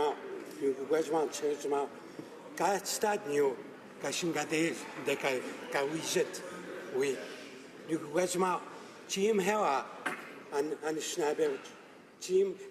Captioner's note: speaking native language